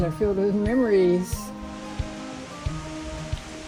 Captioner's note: wind rustling leaves